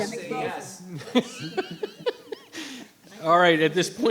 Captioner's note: members laughing